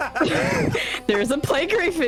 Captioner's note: laughter